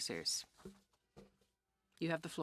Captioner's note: speaking French